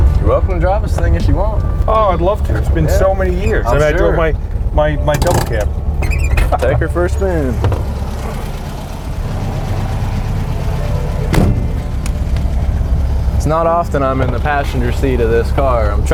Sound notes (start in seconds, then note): 10.5 bus door clangs